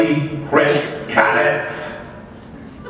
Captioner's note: laughter